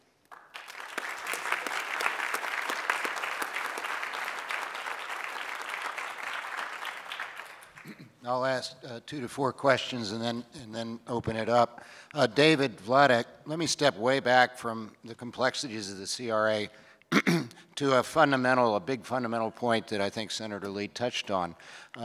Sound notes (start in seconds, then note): 0.1 applause; 3.8 clears throat; 17.1 clears throat